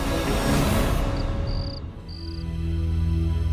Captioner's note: crickets chirping